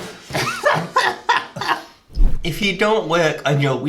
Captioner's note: laughing